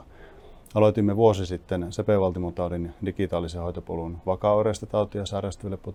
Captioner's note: speaking in foreign language